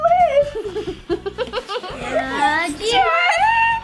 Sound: laughs

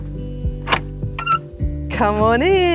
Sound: latch creaks

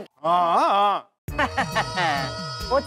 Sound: laughs

